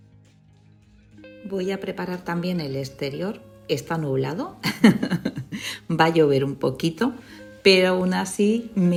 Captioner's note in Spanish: risas